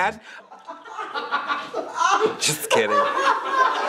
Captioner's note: all laughing